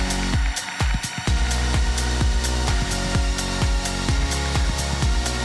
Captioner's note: applause